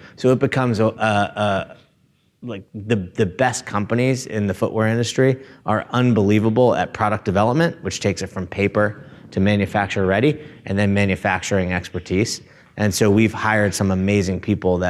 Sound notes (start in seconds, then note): none